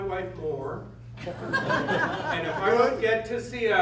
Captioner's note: laughter